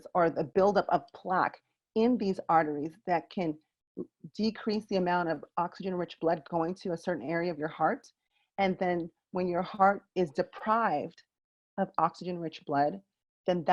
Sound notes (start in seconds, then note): none